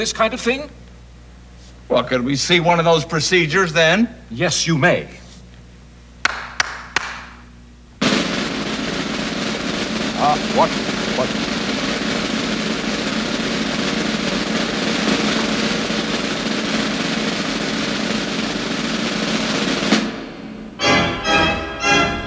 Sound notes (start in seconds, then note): 6.2 claps hands